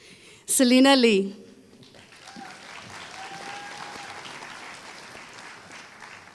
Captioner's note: applause